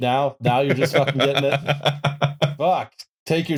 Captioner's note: laughs